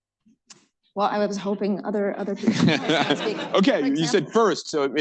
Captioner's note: laughter